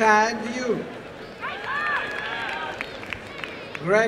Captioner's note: applause and cheering